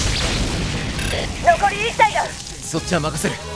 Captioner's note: battle noises; through intercom